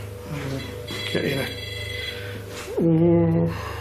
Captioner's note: beeping